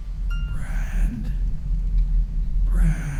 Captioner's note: disembodied Voice